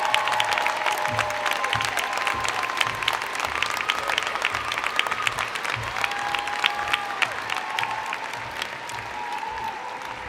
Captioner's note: cheers and Applause